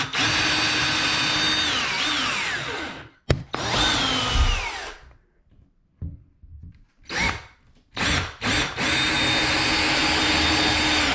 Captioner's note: drilling Noise